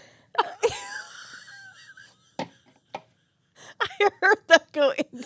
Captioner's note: wheezing